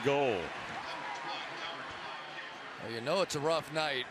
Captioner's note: pa announcement